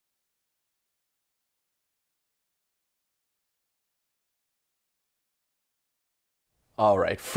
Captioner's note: silence